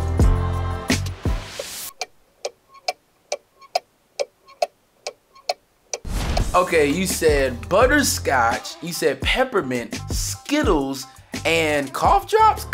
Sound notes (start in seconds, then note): 1.8 ticking sound